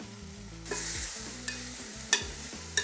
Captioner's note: sizzling sound